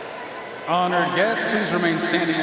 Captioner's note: audience chattering